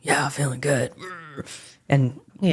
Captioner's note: grunts